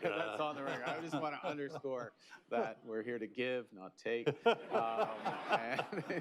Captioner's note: laughter